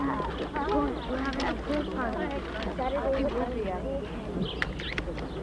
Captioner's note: children chattering; birds chirp